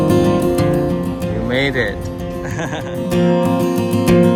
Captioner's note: laughs